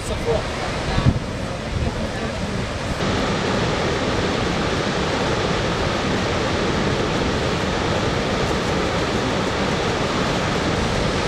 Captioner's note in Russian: английская речь; шум водопада